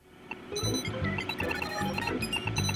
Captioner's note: video game beeping